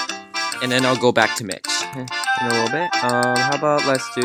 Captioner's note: quietly